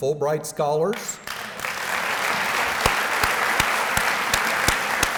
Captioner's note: applause